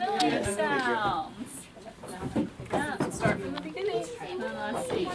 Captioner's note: preschool classroom sounds